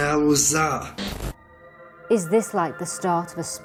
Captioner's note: static rips